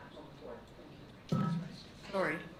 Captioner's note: microphone bumped